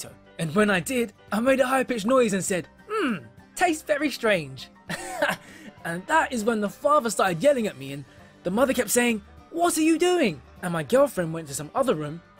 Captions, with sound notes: And when I did, I made a high pitched noise and said, "Mmm! Tastes very strange!" [Laughs] And that is when the father started yelling at me and the mother kept saying, "What are you doing?". And my girlfriend went to some other room.